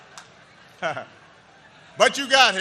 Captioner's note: laughter